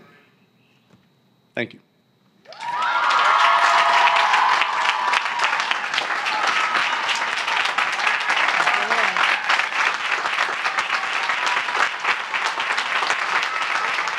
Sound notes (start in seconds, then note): 2.4 cheering; 2.5 applause